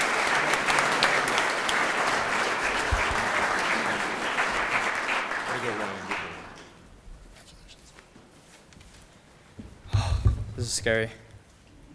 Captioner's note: applause